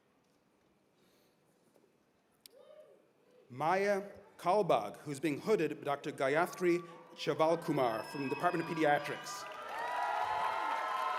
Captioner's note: cheers and applause